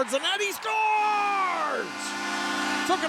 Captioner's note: shouting; crowds cheering